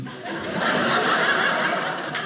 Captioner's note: audience laughing